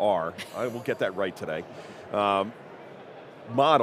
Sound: chuckling

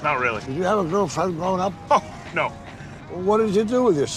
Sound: scoffs

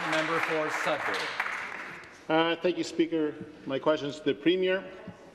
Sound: some Applause

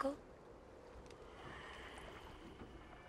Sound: ghostly whisper

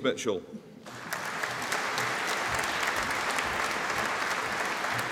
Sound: audience applauding

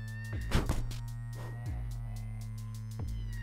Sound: guy hitting ground sound

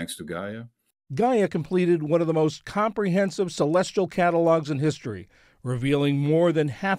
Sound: voice-over

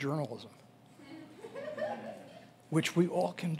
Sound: audience laughing

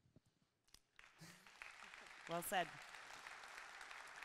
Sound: audience clapping

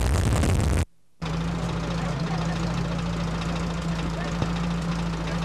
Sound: sound of car engine running

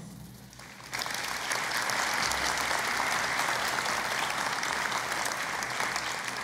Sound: applause

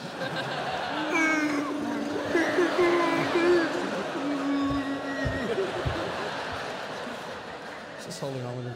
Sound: scared bear noises

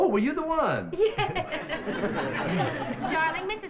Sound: laughing

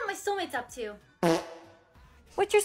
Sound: fart sound effect

